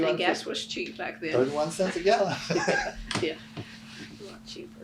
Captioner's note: laughs